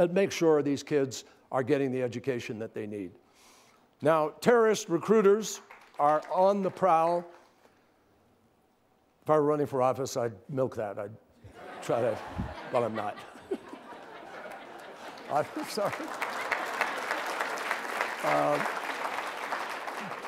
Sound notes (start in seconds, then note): 5.4 applause; 11.4 laughter